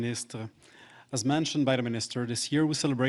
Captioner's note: speaking French